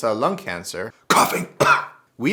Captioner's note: coughing!